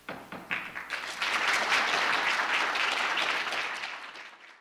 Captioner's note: applause